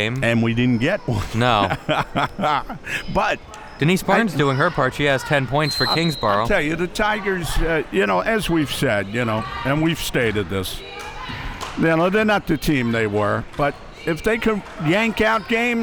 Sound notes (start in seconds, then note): 1.1 laughing